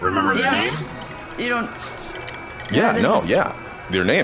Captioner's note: sipping a drink